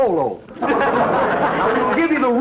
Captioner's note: audience laughter